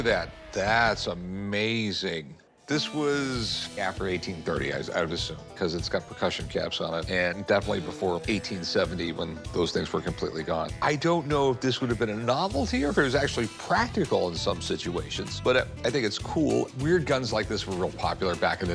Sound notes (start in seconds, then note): none